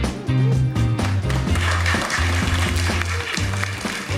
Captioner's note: applause